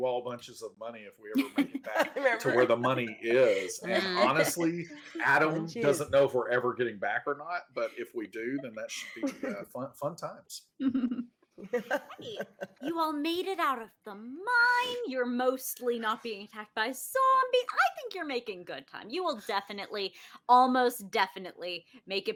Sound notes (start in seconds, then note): 11.6 all chuckling